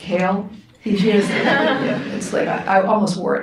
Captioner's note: audience laughs